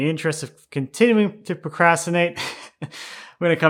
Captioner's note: laughing